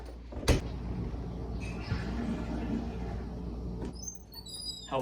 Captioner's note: toilet flush